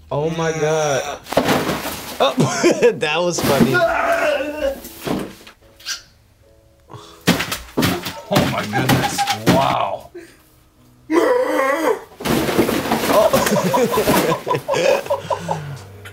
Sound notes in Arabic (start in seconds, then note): 2.2 يضحك; 3.6 رجل يصرخ من الأرض; 5.3 رجل يرتدي زي فلامنغو ويصرخ; 7.2 رجل يضرب رأسه على الطاولة بشكل متكرر; 10.9 رجل يصرخ بالحيوانات; 12.3 رجل يصطدم بالطاولة; 13.0 يضحك